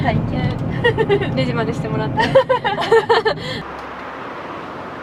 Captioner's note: both of them laugh